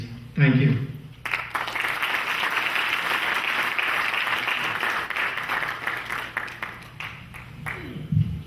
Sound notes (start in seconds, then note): 1.2 clapping